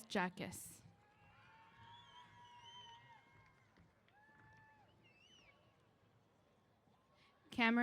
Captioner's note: applause & Cheers